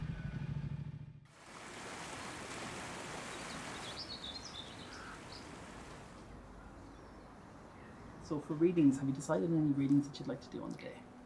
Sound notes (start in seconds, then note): 1.3 water flowing; 2.5 birds singing